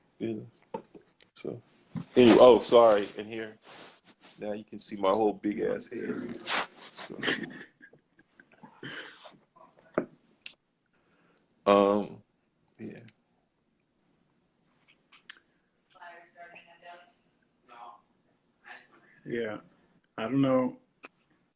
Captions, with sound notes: Yeah, so, any, oh sorry. In here Now you can see my whole (laughs) big-ass head, so Umm, yeah Yeah, I don't know